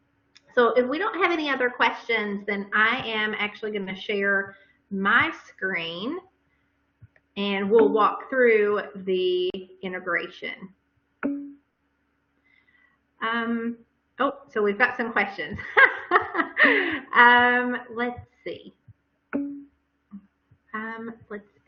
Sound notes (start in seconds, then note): 15.6 laughter